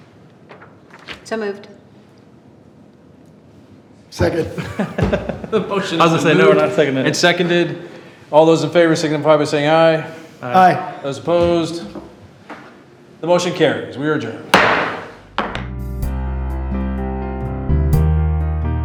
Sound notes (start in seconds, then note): 4.2 trustees chuckling; 14.5 gavel thuds; 15.4 upbeat staccato music